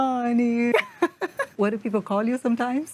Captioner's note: laughs